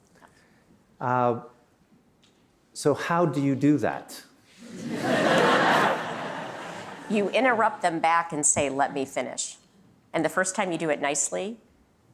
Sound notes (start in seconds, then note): 4.6 laughter